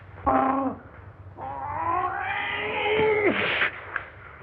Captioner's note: groaning